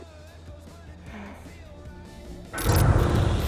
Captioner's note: Kira sighs; sinister dramatic music